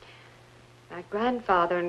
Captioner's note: none